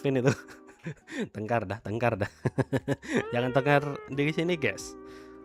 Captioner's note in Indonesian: tertawa